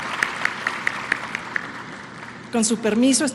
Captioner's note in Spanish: aplausos